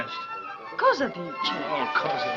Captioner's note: speaking in italian